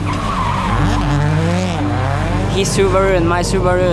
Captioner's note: motor running